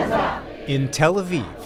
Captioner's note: chanting